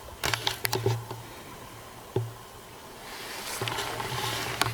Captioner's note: camera scratching